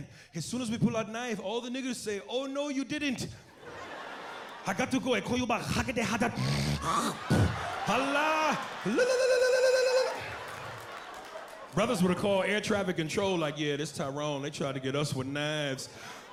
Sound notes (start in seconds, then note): 5.2 imitates Arabic; 6.0 snorts, hacks; 16.1 laughing loudly